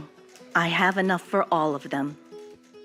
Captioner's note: archival news audio